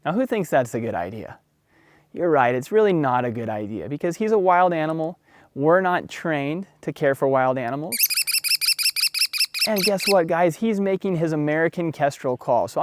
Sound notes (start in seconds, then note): 7.9 american Kestrel calling